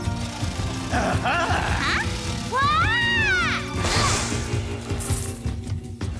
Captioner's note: gasps